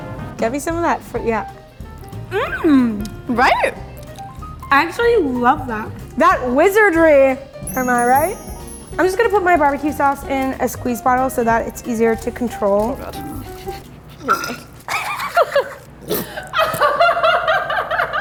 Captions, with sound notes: Get me some of that frui-- yeah. Mm! - Right? - I actually love that. That wizardry! Am I right? (magic spell sound) I'm just gonna put my BBQ sauce in a squeeze bottle, so that it's easier to control. - Oh God. (squirting noises) (both laugh)